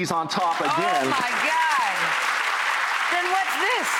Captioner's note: audience clapping